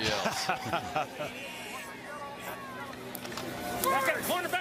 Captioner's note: laughing